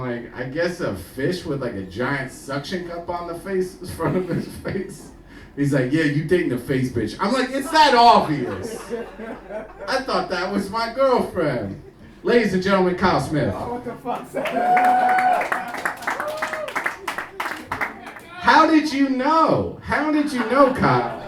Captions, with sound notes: I'm like, I guess a fish with like a giant suction cup on the face, in front of his face? He's like yeah you take the face bitch, I'm like it's that obvious. I thought that was my girlfriend. Ladies and gentlemen Kyle Smith. (audience applauding) How did you know, how did you know Kyle?